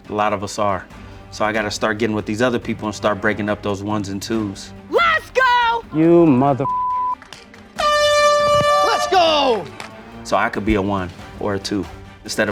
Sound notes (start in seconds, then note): 6.6 beep; 7.7 horn honks